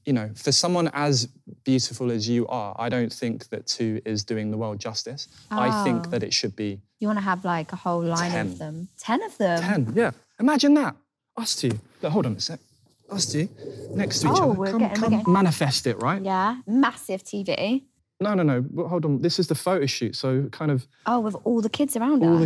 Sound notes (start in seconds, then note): 14.8 beeping